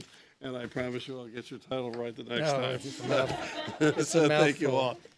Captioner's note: laughter